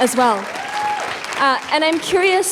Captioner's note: applause